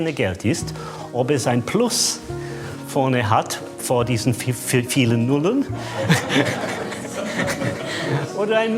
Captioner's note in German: Lachen